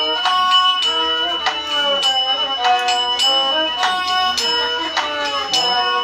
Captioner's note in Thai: ปรบมือ